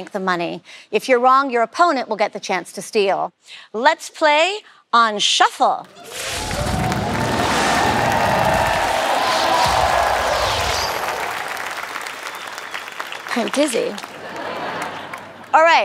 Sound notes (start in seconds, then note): 5.5 cheering; 6.0 whooshing